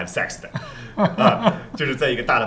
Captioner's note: laughter